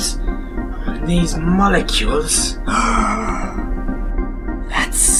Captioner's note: gasps